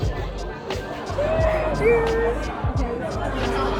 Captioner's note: cheers